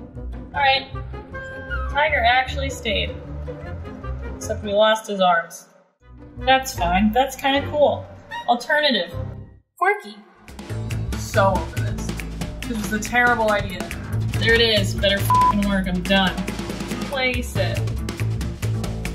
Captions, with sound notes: All right, now you're actually stained. Except you lost his arm. That's fine, that's kind of cool alternative, quirky. I'm so over this. This was a terrible idea. There it is. Better (beep) work, I'm done. Place it.